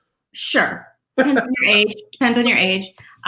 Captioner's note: laughs